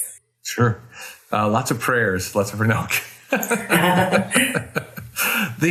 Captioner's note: chuckles